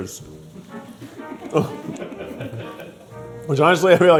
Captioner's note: crew laughing